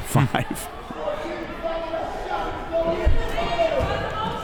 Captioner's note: both laughs